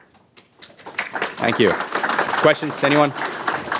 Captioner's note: audience applause